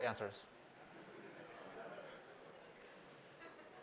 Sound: laughter

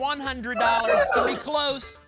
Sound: cheering

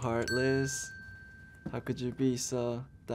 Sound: bell rings

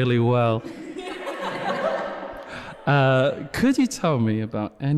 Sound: echoed laughter from off screen

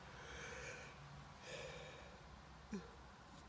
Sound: yawns loudly

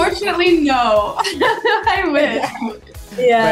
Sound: laughs

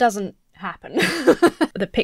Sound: laughs

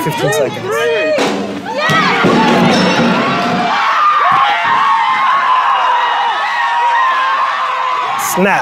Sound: cheering

